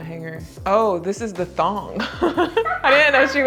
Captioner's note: laughs